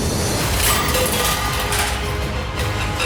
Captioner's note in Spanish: Estruendo